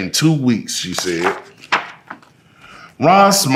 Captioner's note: pages rustling